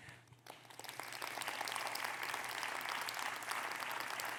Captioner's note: audience clapping